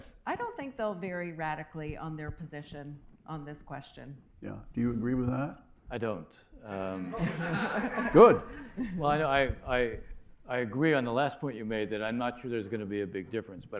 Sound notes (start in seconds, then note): 7.0 laughter